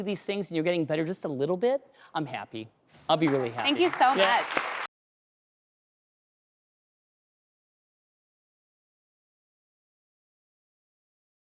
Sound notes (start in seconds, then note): 6.9 crowd claps